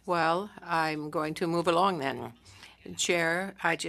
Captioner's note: speaking French